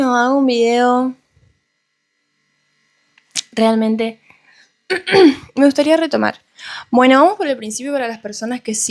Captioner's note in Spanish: carraspeo